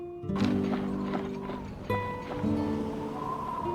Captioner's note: wind whistles; boots padding; wind whistles